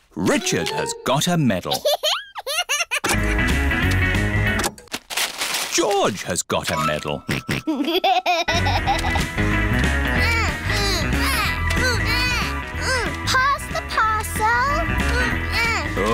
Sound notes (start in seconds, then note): 7.3 snorts and laughs; 10.1 both grunting